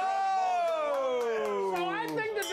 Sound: bell rings

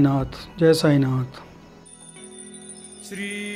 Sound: chant

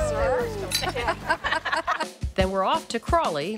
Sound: laughing and glasses clinking

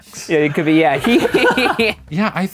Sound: all laugh

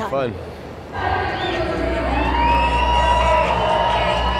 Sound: crowd cheering

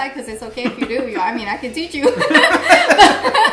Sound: laughs

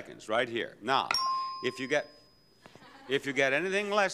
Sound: bell dings

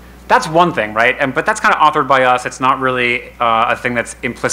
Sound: none

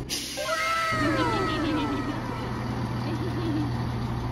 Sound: evil laughter

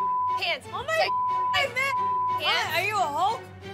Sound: beep

